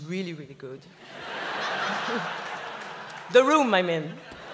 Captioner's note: laughs